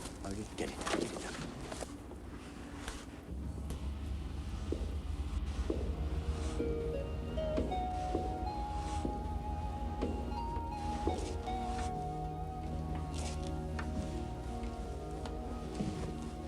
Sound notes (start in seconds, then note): 4.3 footsteps tapping; 7.0 gentle music